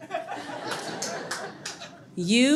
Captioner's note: audience laughs